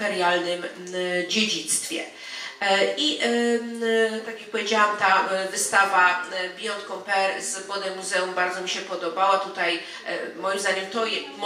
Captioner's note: speaking in foreign language